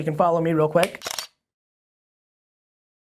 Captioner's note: camera snapping